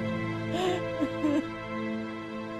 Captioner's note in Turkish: Ağlama sesi